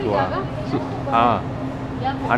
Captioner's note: somali